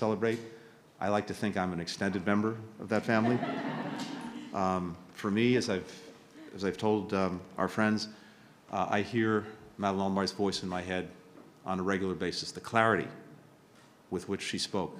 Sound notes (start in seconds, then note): 3.0 laughter